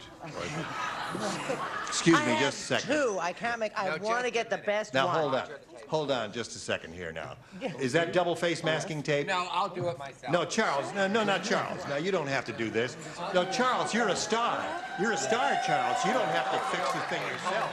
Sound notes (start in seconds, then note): 0.2 laughter